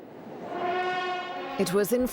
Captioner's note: horns blaring